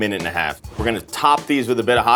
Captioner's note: note swooshes